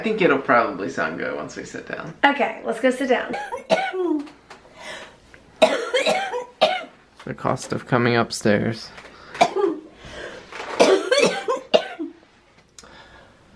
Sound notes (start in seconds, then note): 3.2 hard coughing; 9.0 hard coughing